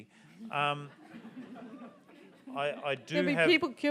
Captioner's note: audience laughs